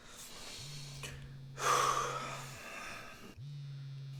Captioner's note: phone buzzing